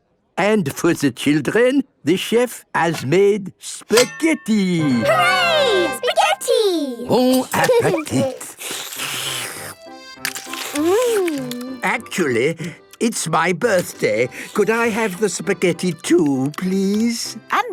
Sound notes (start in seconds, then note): 7.4 slurping